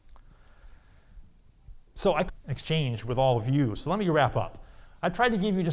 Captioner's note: audio blurs